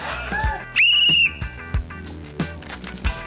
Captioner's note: blows whistle; upbeat music continues